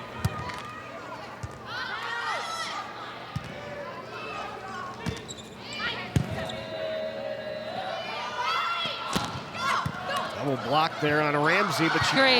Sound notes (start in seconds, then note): 0.4 ball thumping; 1.8 players shouting indistinctly; 9.1 ball thumping